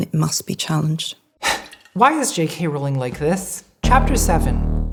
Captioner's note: sighing